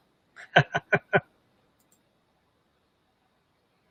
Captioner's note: laughing